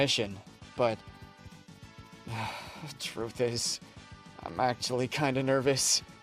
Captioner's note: sigh